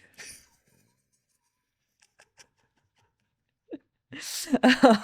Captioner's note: laughing